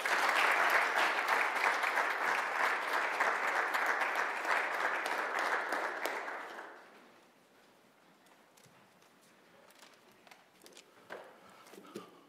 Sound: applause

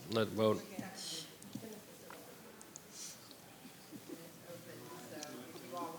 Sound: board members chattering

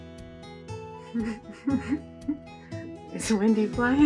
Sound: laughter

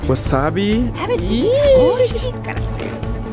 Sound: woman speaking Japanese

